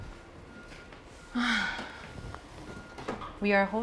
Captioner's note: sighs